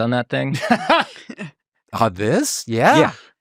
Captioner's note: laughing